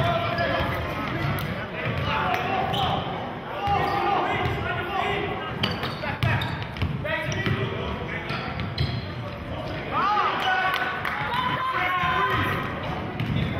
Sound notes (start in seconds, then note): 3.7 yelling